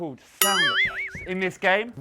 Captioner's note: cartoon boiiiing